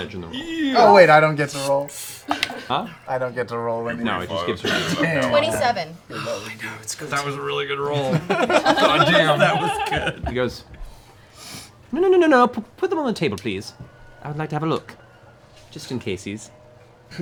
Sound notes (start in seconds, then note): 6.0 sighs; 7.8 laughs